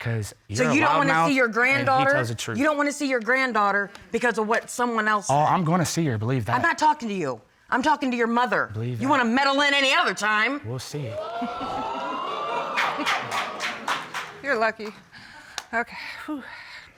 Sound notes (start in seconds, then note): 10.5 chuckles; 11.0 audience exclaims, applauds